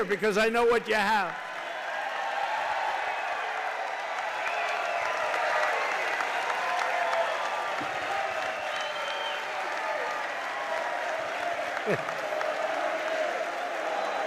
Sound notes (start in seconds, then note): 1.3 applause